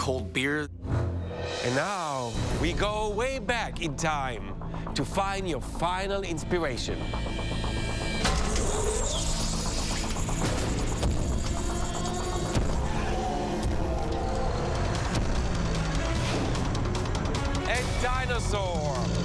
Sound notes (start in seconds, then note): 12.8 roaring